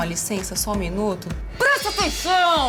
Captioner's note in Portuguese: grita